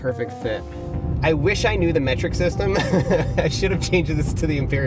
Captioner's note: laughs